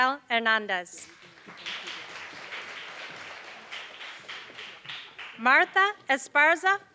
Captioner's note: applause